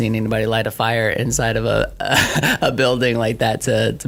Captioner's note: laughs